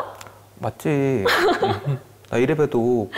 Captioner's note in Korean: 웃음